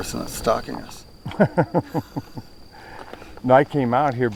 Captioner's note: laughing